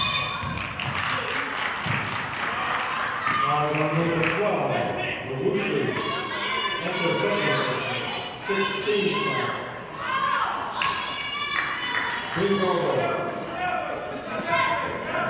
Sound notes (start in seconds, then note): 0.0 whistle blows; 0.5 clapping; 6.4 murmurs